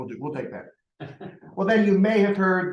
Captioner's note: laughter